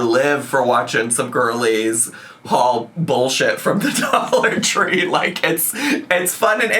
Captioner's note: laughs